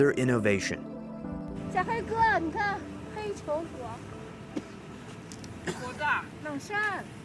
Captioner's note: speaking in foreign language